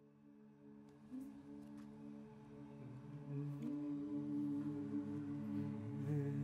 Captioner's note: a drone-like hum